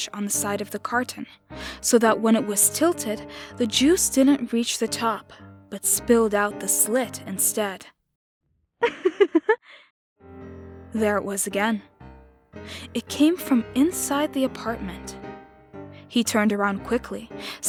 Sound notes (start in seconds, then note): 8.8 laughter